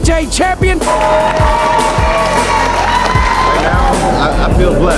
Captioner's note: spectators applauding